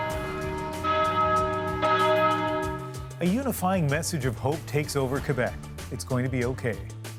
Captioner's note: bells tolling